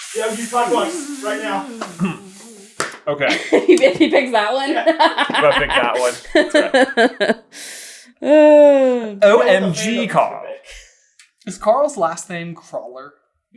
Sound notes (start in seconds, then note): 4.5 laughing; 4.8 cracking up